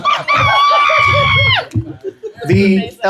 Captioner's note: laughter